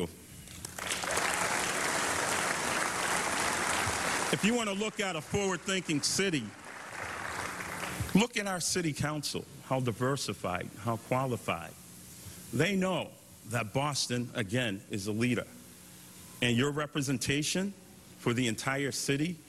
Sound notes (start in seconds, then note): 6.6 applause